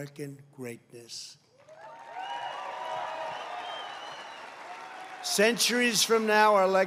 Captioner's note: applause